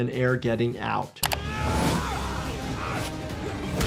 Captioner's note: grunting